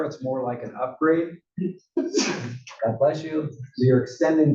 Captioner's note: cough